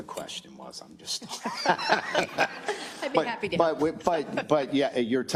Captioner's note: laugh